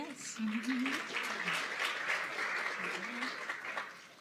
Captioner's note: applause